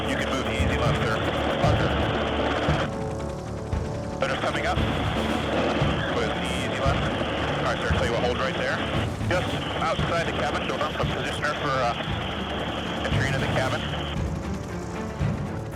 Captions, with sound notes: You can move the easy left, sir. - [Person Over Radio] Roger. - [Man Over Radio] Litter's coming up. With the easy left. Sorry, sir, tell you what, hold right there. Just outside the cabin. So now we'll position her for entry into the cabin.